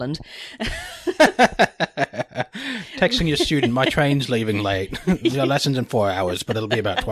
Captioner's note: laughs